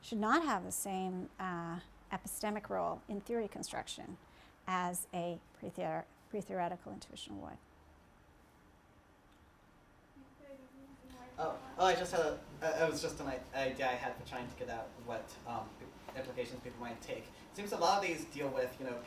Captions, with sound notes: should not have the same epistemic role in theory construction as a pre-theoretical intuition would. (speaking from off mic) - It was just an idea I had for trying to get out what implications people might take. It seems a lot of these deal with people